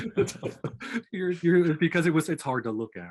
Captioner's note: laughing